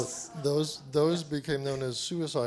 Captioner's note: voiceover